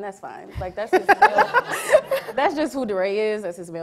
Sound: laughing

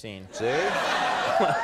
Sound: audience laughs

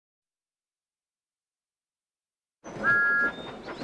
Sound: thomas whistles

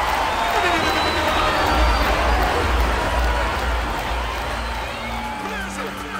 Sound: air horn blaring loudly; crowd cheering loudly

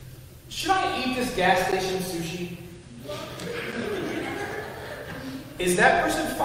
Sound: laughter

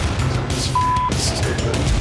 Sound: beep

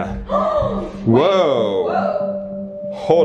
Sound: gasps

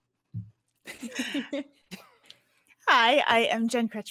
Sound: all chuckling

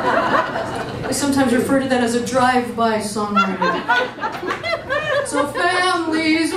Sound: audience laughs; more laughter

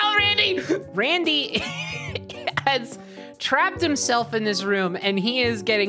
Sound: laughing

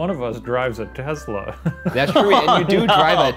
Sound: laughs

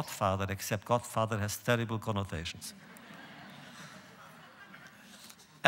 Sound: laughter

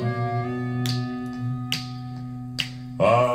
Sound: snap, snap, snap

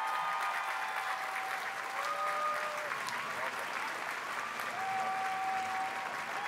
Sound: c heers & applause

